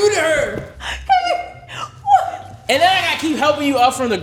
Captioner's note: laughing